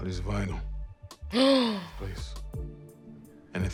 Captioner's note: gasp